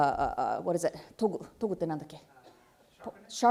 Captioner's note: speaking japanese